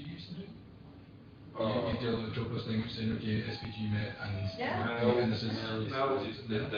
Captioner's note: audio distorts